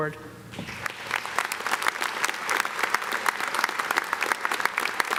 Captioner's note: everyone clapping